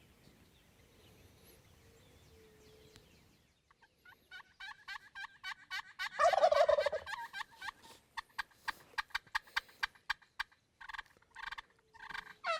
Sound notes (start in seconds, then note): 7.1 turkey gobbling